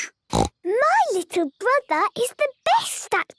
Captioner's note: snorts